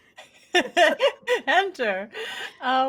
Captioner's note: laughing